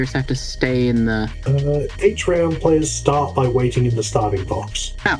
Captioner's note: rules-scanning noises